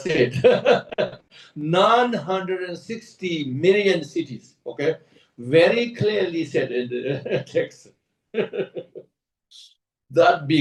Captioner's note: laughs; laughs